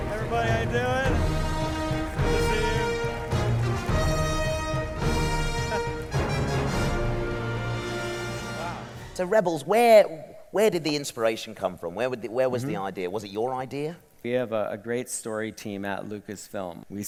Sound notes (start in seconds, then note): 3.5 applause; 5.4 chuckles